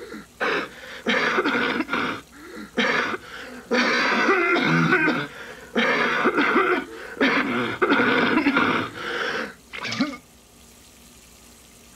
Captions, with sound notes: [man coughing] and never painless. [coughing continues] When smoking leads to lung cancer, [man spits]